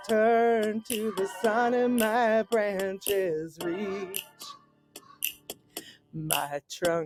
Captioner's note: raven caws